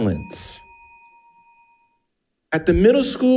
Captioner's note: bell dings